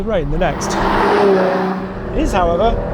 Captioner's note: car revs